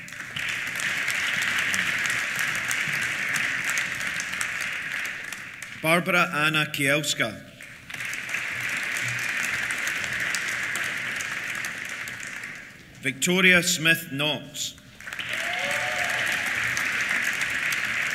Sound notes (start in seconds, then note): 0.0 applause; 14.8 applause; 15.1 cheers